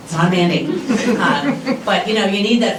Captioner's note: laughter